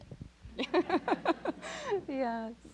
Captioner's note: audience laughs